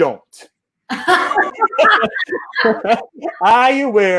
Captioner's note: laughing